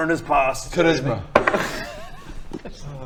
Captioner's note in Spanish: tirada de dados